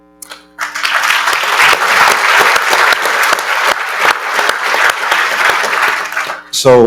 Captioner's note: applause